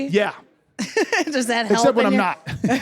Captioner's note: laughs